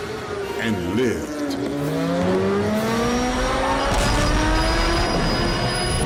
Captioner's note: bike engine roaring